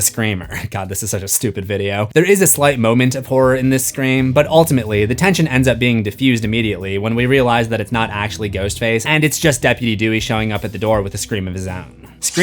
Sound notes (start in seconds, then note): none